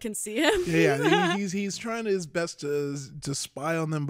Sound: chuckles

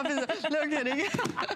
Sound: laughter

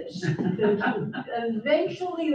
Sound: audience chuckles

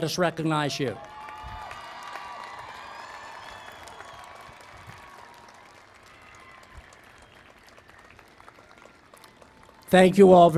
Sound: cheering and Applause

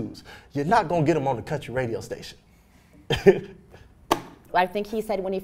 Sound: laughs

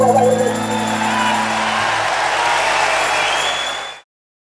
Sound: audience cheering; audience applauding

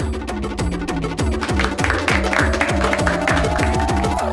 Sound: applause

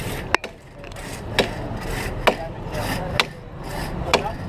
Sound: sawing

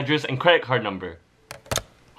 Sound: phone gets turned off

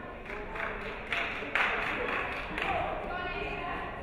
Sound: audience clapping

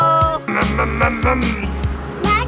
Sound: imitates a revving engine

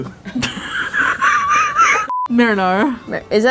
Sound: laughing

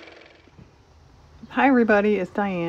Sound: car motor

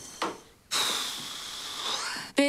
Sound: sighs

